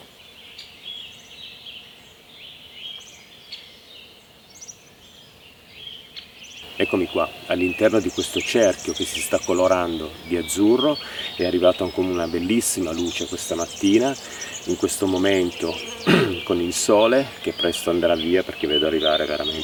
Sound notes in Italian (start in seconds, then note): 16.0 schiarire la voce